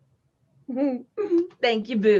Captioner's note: Peaches laughs